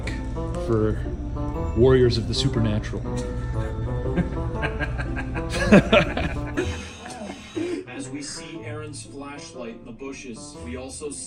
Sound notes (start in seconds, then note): 4.0 laughing